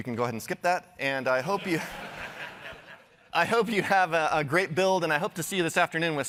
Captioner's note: laughter